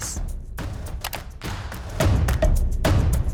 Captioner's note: computer mouse clicking; dramatic music continues